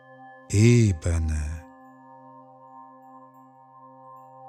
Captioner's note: german